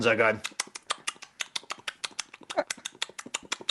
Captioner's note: lips smacking